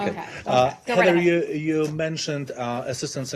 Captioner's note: laughter